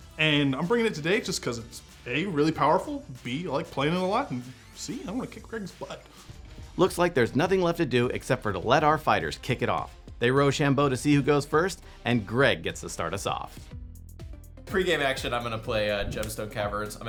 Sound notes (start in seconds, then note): none